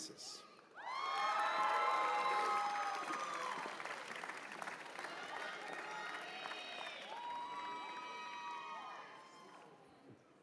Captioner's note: cheers and applause